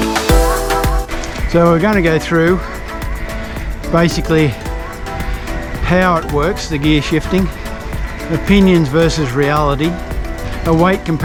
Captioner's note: the gear shifting